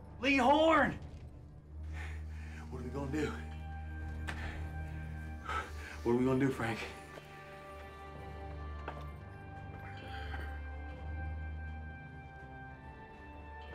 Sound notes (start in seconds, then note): 2.9 panting